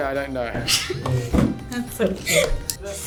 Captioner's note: laughs